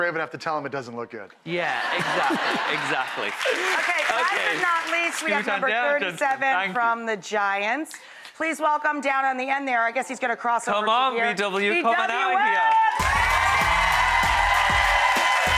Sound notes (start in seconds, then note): 1.7 audience laughs, applauds; 12.3 audience applauds